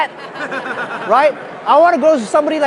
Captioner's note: laughing